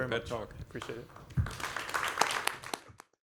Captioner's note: applause